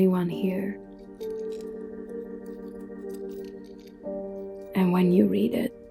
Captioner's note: chain jangling